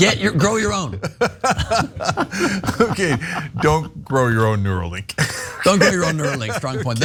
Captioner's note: laugh